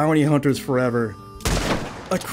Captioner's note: gunshot